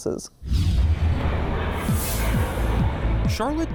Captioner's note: flight taking off